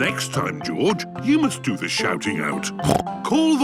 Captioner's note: snorts